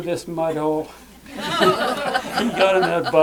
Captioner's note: laughter